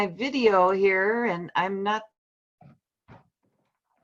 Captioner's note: audio cuts out